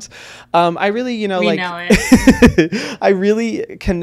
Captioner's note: laughs